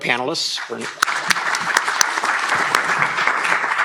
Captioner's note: applause